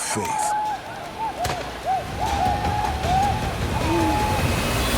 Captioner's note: shawnee yelling